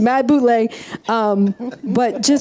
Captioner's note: audience and panel laughs